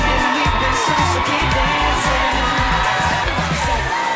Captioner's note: cheering